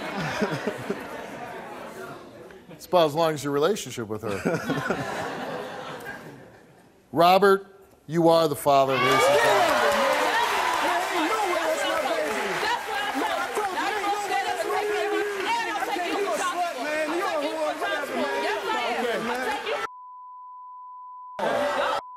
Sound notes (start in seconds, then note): 0.0 audience laughs; 9.7 audience applause; 12.8 yelling and arguing